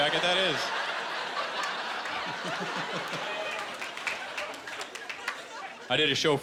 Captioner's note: laughter